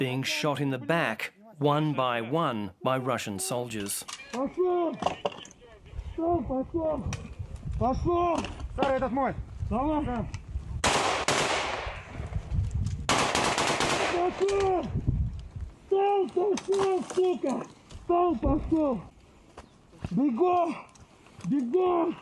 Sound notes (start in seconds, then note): 10.8 gunfire